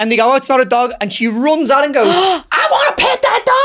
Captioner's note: gasps